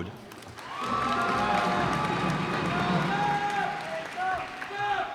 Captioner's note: cheers and applause